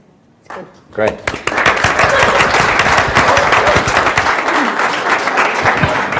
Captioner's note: audience applauds